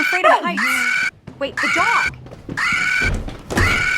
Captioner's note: Robo Dog barks